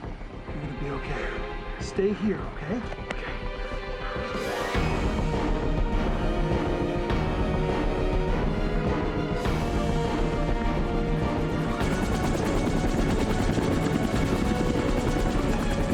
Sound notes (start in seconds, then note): 4.4 intense music; 11.6 helicopter blades whirring